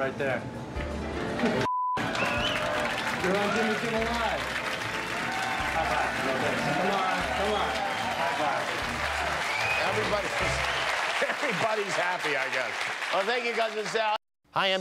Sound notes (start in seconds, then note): 10.4 cheers and applause